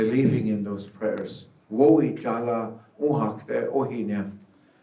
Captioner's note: speaking Lakota